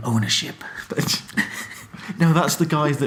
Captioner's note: laughing